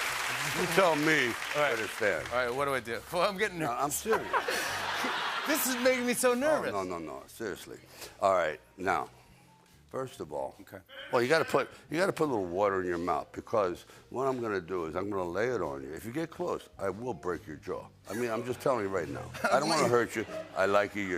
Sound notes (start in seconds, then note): 4.0 laughter